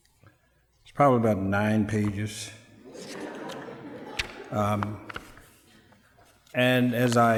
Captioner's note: laughter